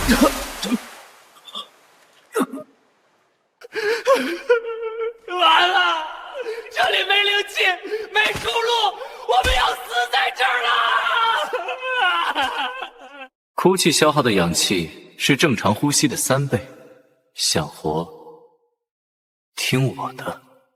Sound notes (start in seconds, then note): 13.6 crying